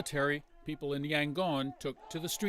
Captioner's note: chanting